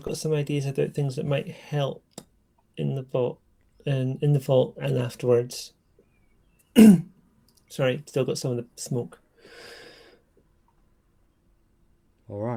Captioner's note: coughs